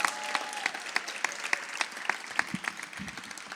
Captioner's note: audience cheers